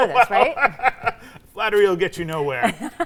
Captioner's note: laughing